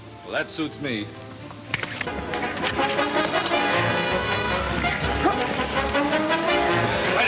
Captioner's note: smacking; exciting orchestra music